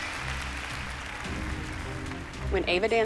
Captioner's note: applause